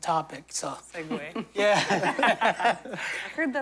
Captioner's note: laughter